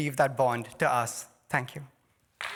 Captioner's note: applause